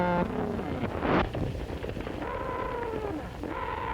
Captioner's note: cattle noises